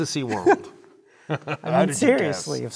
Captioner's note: laugh